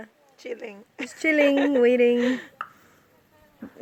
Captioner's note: laughs